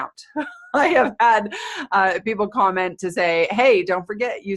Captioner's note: laughing